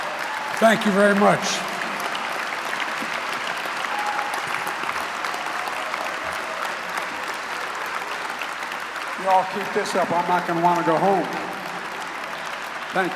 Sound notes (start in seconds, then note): 2.9 applause